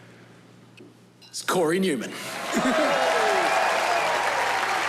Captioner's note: cheering, applause